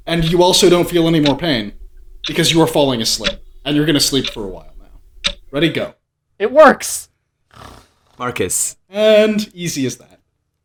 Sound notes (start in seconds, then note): 7.5 soft snoring